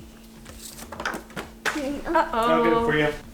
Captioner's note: card flutters; vocalizes